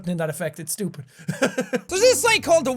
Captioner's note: laughs